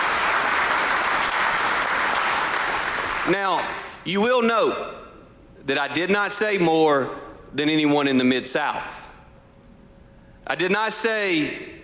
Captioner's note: applause